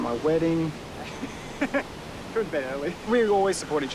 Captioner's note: laughs